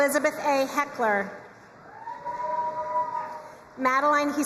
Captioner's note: crowd cheering and applauding